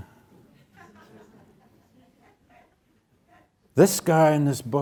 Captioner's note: audience chuckles